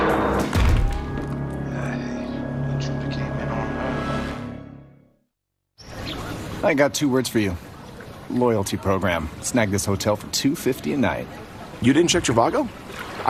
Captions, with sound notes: [metallic thud] The intruder came in on her.